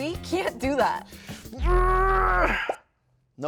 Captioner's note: grunts; smoke popping